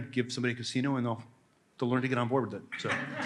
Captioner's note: laughter